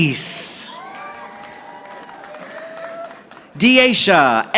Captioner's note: audience applauding